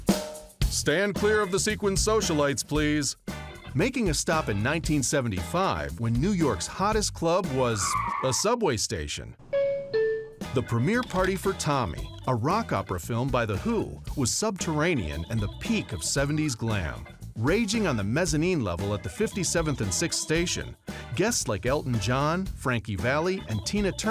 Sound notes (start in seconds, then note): 7.8 brakes screech; 9.5 doors chime